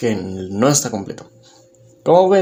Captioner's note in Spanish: Silencio